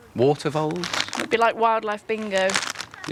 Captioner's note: rustling